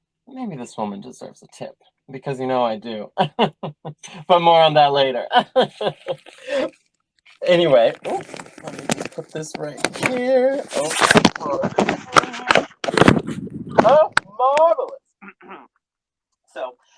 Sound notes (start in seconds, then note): 5.2 laughter; 10.9 inaudible shuffling; 15.2 clears throat